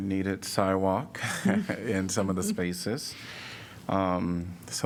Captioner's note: laughter